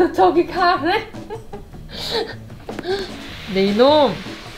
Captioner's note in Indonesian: tertawa